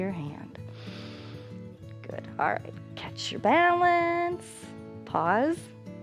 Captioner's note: inhales